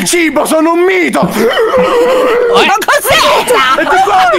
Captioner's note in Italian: inspira vocalmente